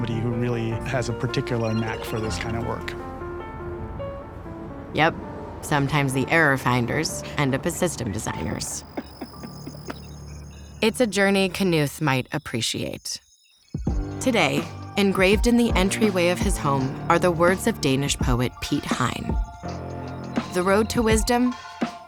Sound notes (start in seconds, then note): 8.6 laughs; 13.3 dramatic music